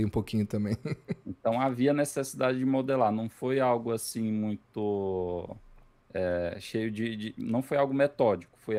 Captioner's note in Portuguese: risadas